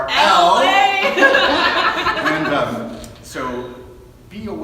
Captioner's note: laughing